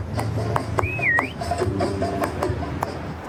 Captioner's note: whistling